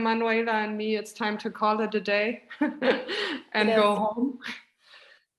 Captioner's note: chuckles